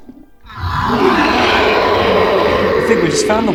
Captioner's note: wyllie roars